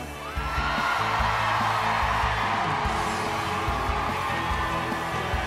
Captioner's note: crowd cheers and applauds